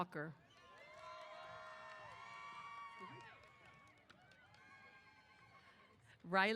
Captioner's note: applause & Cheers